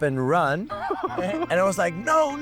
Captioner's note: laughing